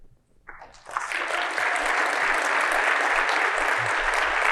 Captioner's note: crowd applauding